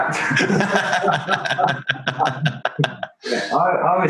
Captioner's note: both laugh